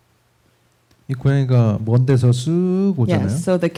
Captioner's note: speaking korean